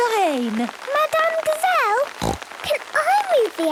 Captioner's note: snorting